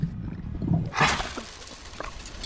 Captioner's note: gargling; coins hitting the desk